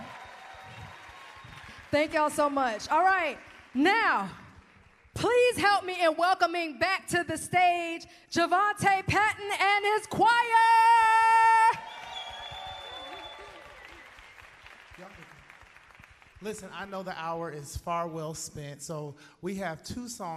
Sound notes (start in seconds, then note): 10.7 cheers and applause